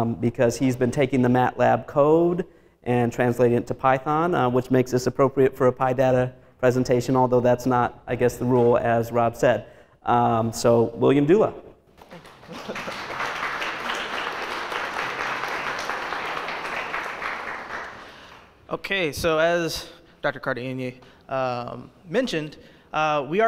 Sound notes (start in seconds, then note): 12.0 audience applauds